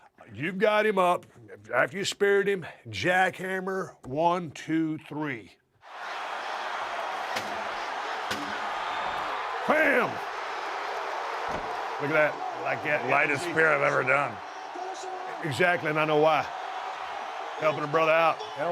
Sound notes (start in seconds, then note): 6.3 applause